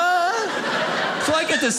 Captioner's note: audience laughing